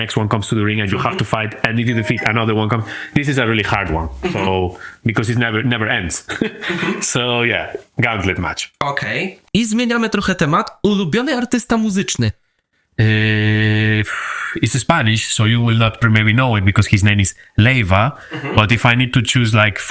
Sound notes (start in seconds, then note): 6.3 laughs